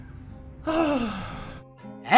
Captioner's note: sighs